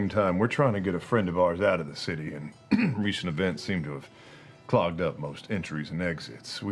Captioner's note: coughs